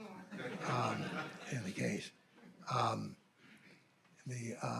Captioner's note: audience laughing